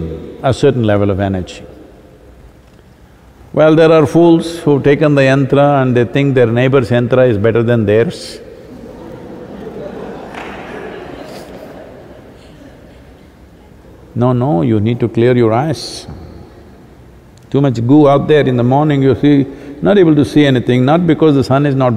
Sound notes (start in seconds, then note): 8.7 laughter